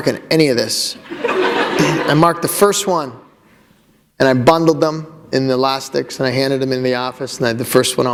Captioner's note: laughter